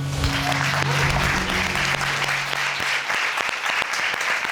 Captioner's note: crowd cheering